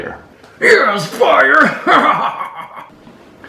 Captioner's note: hahahahaha